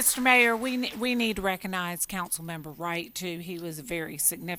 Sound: applause

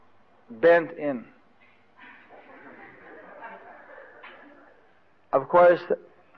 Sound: devotees laugh

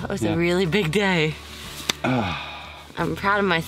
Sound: hands slapping

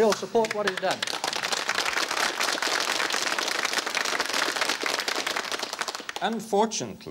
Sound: applause

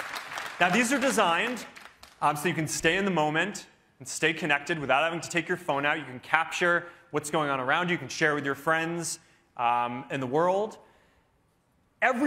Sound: cheering

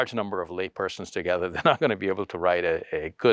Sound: scoffs

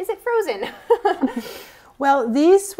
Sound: laugh

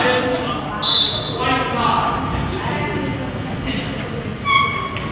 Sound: whistle blows

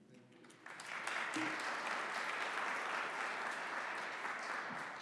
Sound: audience applauding

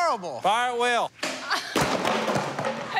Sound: laughs; chattering, squealing, laughing

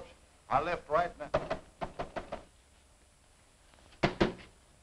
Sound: hand banging

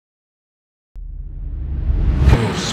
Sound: dramatic clunk; dramatic rumbling

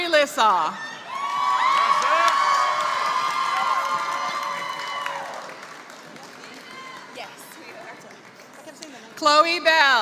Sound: applause

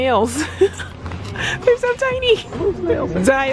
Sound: laughing

